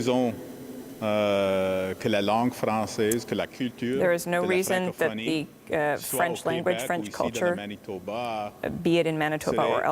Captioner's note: speaking in french